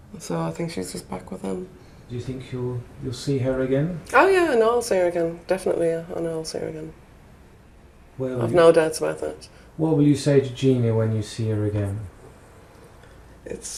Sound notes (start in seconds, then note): 2.4 voiceover; 10.0 voiceover